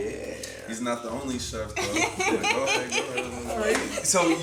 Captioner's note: Angela laughing